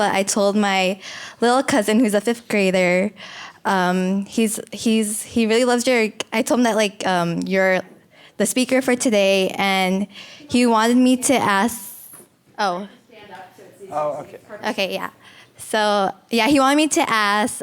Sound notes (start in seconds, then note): 13.2 speaks off microphone